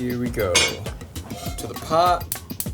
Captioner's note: pot lid clanks